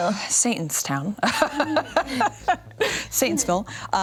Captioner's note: laughs